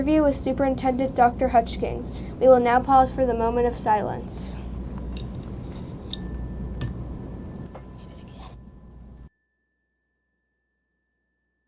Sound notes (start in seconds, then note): 6.0 bell dings